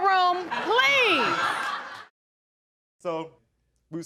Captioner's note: audience laughing